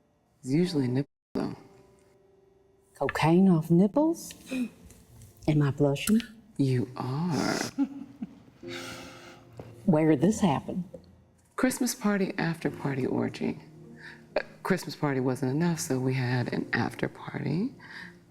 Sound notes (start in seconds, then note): 7.6 chuckles